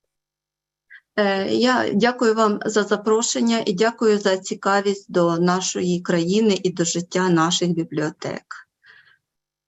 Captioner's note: foreign Language Spoken